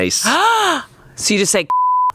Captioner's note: gasps; beep